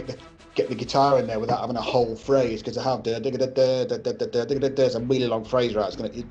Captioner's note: imitates Bond theme